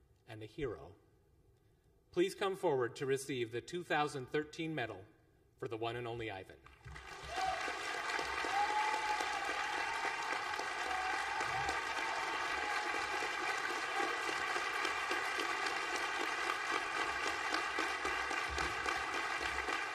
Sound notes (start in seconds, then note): 11.6 applause